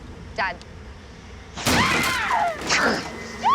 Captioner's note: cris fort